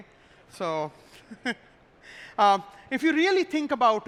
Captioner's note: laughs